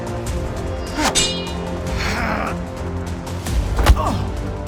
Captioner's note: both moaning; swords clanking